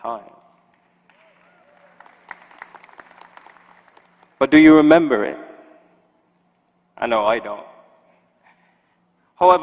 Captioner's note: applause